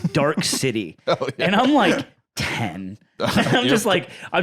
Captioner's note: laughing